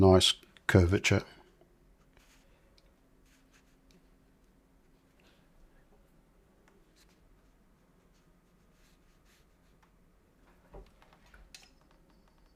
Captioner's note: silence